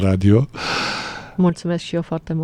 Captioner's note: gasp; sigh